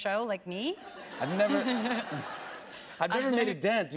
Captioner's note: laughter